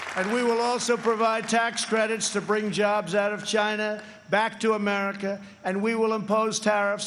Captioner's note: applause